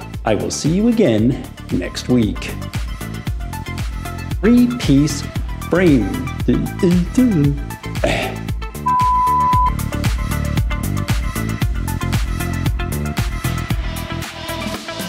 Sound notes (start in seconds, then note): 8.8 beep